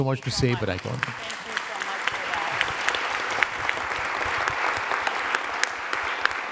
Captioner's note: audience applauding